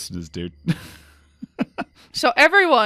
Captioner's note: laughs